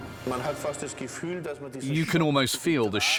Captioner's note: speaking German